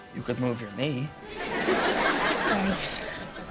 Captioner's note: audience laughter